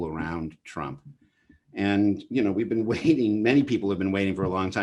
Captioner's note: chuckles